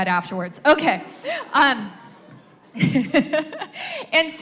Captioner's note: laughter ripples through audience